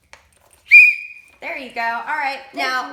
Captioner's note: whistles